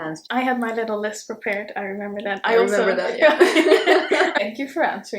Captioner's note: both laugh